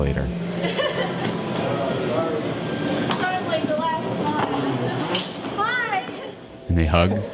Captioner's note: laughs